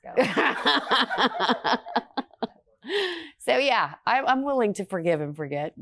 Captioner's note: all laughing